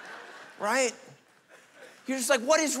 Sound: congregation laughing

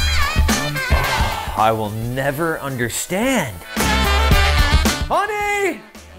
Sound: sighs

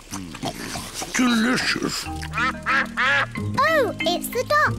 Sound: ducks quack

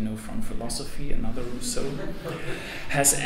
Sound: audience laughs

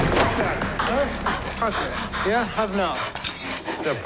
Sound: panting

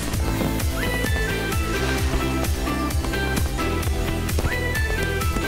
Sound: fireworks exploding

